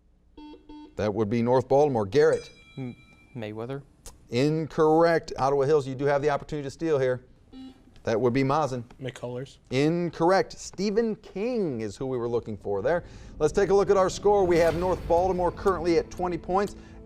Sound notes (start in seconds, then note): 0.4 buzzer beeps; 2.3 timer beeps; 7.5 buzzer beeps